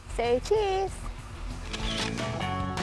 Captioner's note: camera shutter clicks